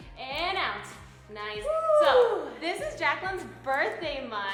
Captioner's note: none